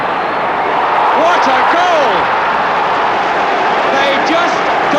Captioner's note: crowd roaring